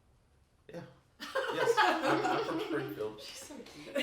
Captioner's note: all laugh